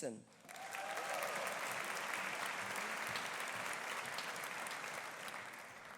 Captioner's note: audience applauding; audience cheering